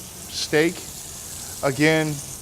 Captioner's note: sizzling